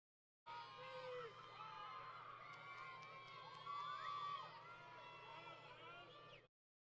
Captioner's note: crowd Yelling